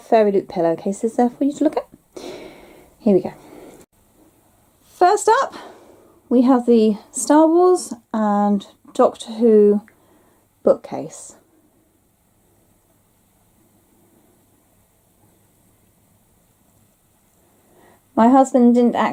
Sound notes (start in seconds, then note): 11.1 pause